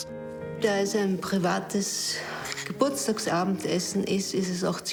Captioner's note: speaking foreign language